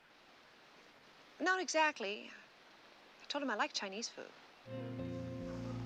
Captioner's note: chuckling